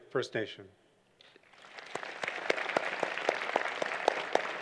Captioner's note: applause